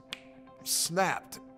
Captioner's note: finger snapping